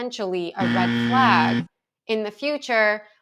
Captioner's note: buzzer buzzes